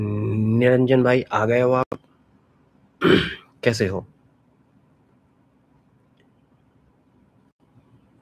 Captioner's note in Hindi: गला साफ़ करने की आवाज़